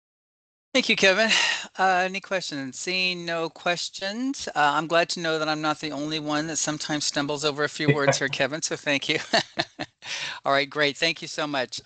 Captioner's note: laughter